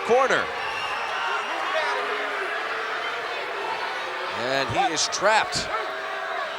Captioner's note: applause; applause